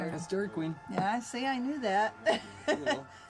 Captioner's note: laughs